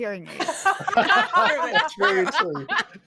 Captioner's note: all laughing